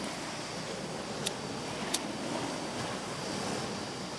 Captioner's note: lighter clicks